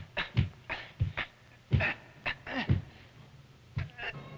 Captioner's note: men straining